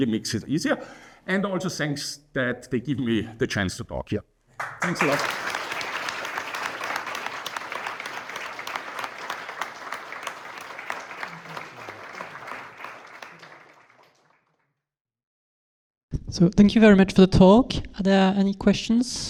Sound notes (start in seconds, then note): 4.1 audience clapping